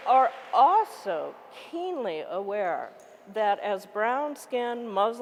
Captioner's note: applause